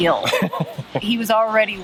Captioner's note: laughing